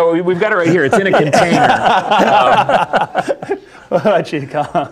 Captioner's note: laughter